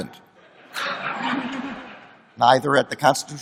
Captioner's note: laughter